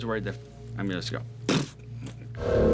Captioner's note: blowing a raspberry